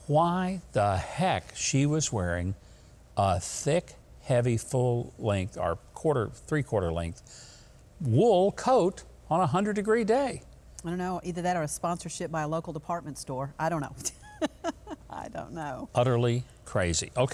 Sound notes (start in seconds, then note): 14.0 laughing